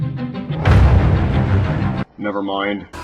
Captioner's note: the sound of incoming nightmares